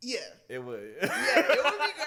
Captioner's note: laughs